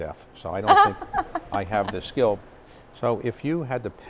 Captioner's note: laugh